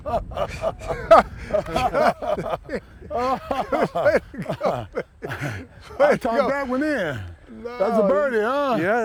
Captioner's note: laughs